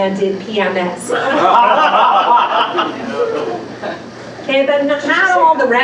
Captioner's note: laughter